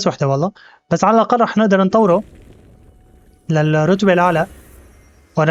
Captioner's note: whooshing